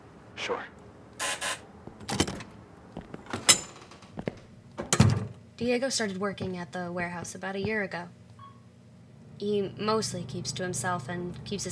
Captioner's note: sound: entering building, calling elevator